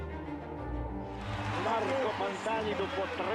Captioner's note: cheering